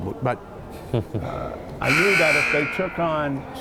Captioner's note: laughing; buzzer